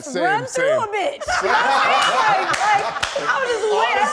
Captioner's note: laughs